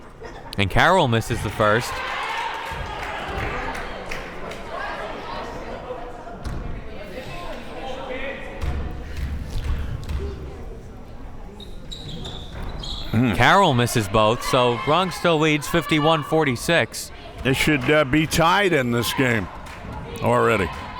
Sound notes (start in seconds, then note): 1.6 crowd members clapping; 6.2 crowd members talking